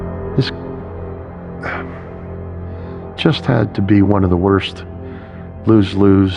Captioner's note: sigighing